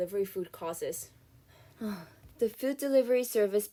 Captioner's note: sigh